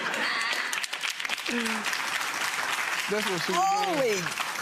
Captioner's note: audience laughing and clapping